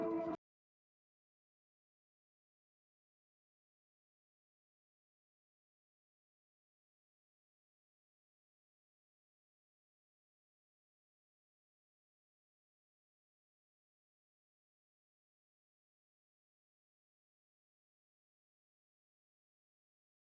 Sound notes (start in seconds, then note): 0.0 upbeat music; 2.4 silent